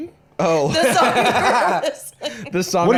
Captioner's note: laughs